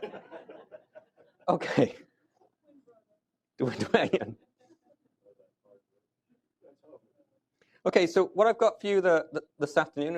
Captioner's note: laughter